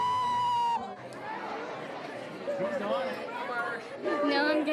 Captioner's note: excited chatter